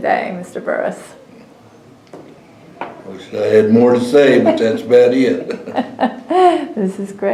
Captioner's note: laughter